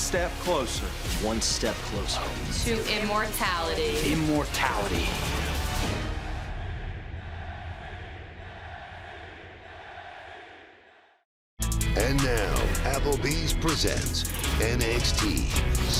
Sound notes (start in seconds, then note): 6.9 crowd chants "nxt"